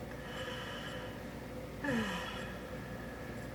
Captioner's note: deep sigh